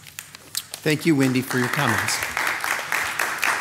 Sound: attendees applaud

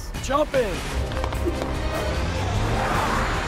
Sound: feet quickly pattering; truck engine whirring

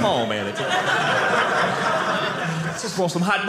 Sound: audience laughing

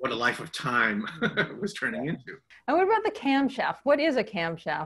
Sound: laughs

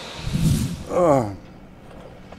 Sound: groan

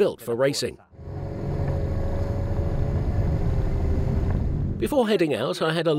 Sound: engines humming

